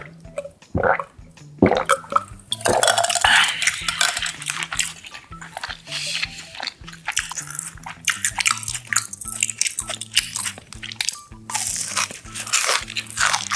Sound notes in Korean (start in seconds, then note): 7.1 ㅋㅋ